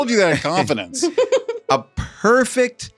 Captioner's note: laughs